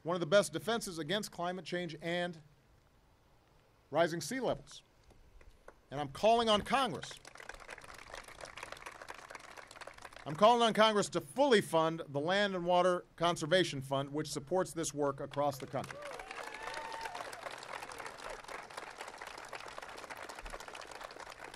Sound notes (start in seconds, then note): 6.5 applause; 18.0 applause